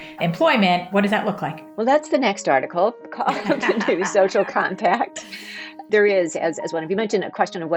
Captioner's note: laughing